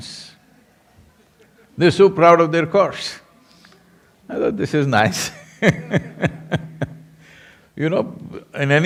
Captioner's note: laughs